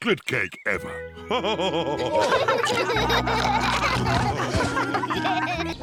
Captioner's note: all laughing